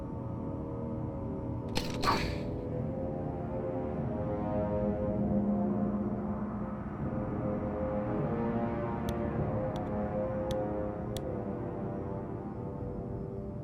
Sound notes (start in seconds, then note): 1.8 Plushtrap subtle grunt